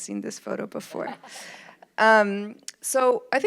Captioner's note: audience laughs